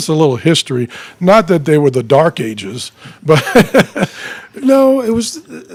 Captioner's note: laughing